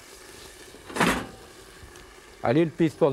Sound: pan clatters

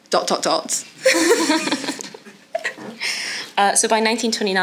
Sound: audience laughs

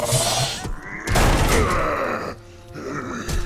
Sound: grunting

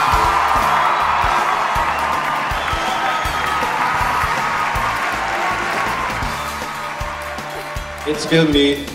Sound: cheers and applause

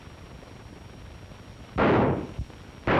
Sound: gunshots

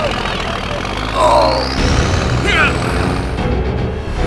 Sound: engine revving

